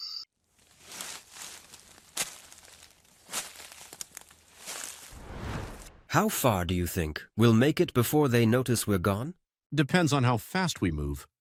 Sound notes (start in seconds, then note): 0.4 grass crunching and rustling; 5.0 air whooshes